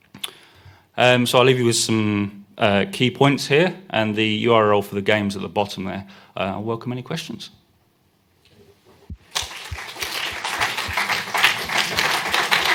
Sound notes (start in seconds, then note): 9.2 applause